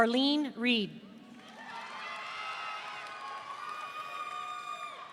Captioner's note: audience cheering